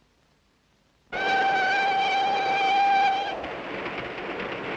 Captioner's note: whistle blows